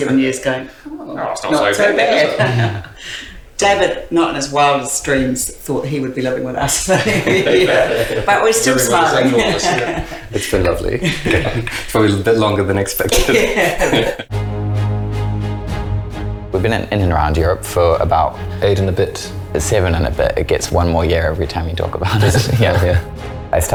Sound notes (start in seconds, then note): 6.9 laughs